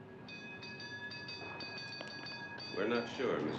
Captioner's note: Tramvay zil